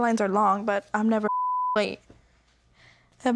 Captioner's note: beep